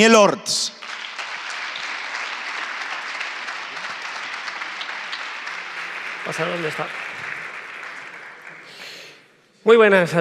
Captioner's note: applause